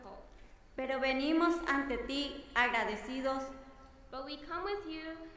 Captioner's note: speaking in foreign language